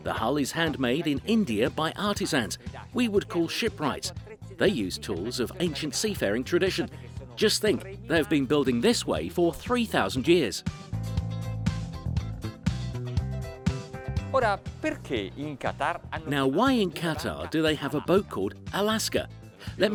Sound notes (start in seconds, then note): 0.0 speaks in foreign language; 10.4 upbeat funky music; 14.6 speaks in foreign language